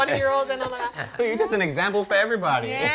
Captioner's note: laughter